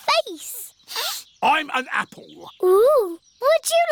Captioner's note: sniffs